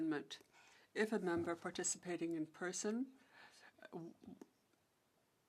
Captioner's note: speaking French